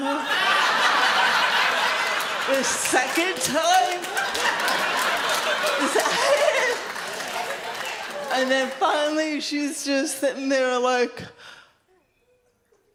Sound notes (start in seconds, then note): 0.2 audience laughs loudly; 4.1 audience laughs loudly